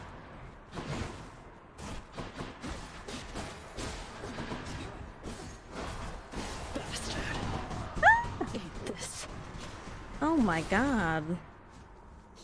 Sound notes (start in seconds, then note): 7.3 yells